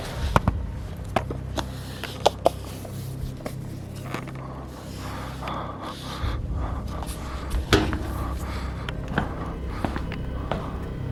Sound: checking the room, breathing sounds

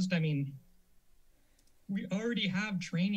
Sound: silence

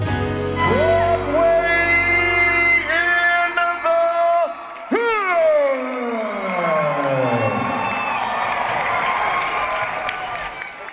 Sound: cheers and applause

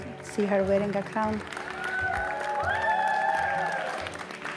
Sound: applause

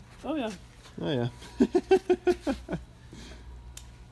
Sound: laughing

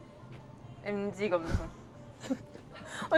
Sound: humph

